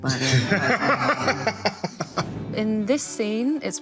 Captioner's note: laughing